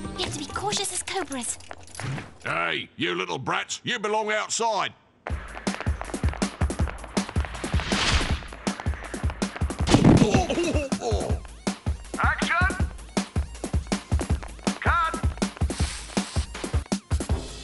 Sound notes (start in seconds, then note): 5.2 running footsteps; 9.8 crash; 13.6 over megaphone; 16.4 dramatic music